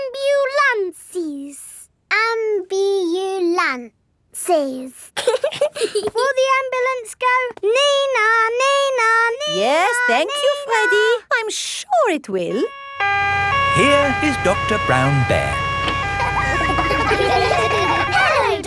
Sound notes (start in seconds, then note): 5.2 both giggling; 12.6 siren wailing; 16.6 kids laughing